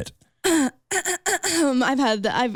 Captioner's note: clearing throat